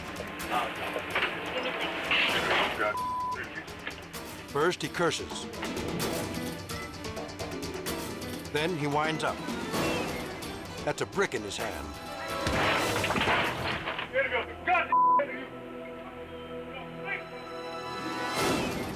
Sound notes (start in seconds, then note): 2.9 beep; 12.4 merchandise clattering; 14.9 beep